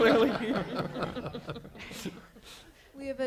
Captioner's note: laughter